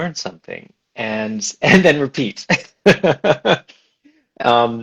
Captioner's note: laughs